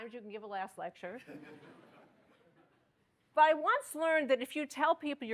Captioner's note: laughter